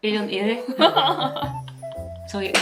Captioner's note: laugh